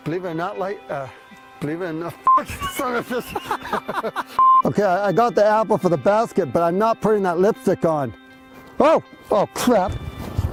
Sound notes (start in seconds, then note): 3.9 risa